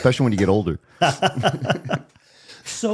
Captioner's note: laughter